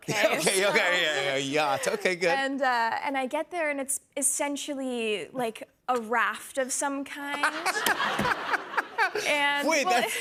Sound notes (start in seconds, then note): 0.0 laughter; 7.3 laughter